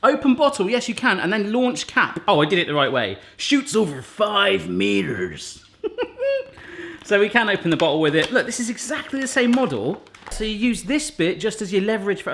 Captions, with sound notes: Open bottle, yes you can, and then launch cap. Oh I did it the right way. Shoots over five metres! (laughs) So we can open the bottle with it. Look, this is exactly the same model. So you use this bit just as your leverage